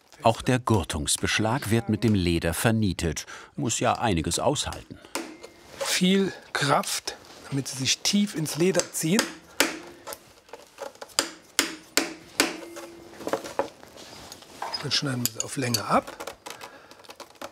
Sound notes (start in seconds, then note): 11.0 hammering